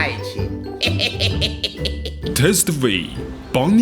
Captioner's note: laugh